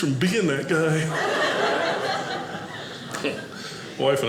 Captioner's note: audience laughing